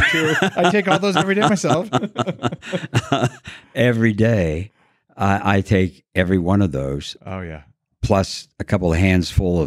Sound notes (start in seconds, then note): 0.0 laughing